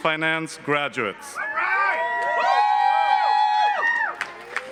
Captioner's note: cheering